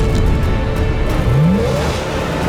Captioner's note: engine revs